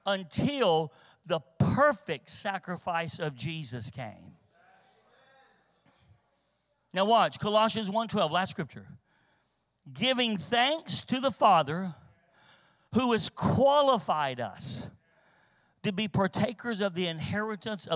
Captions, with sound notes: until the perfect sacrifice of Jesus came. (congregation muttering in agreement) Now watch, Colossians 1:12, last Scripture, "Giving thanks to the Father, who has qualified us to be partakers of the inheritance